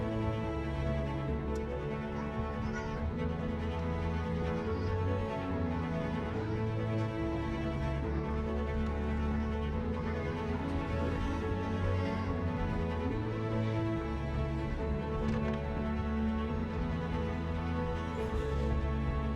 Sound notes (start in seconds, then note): 1.1 children playing; 3.9 soft music; 6.5 children playing; 6.7 soft music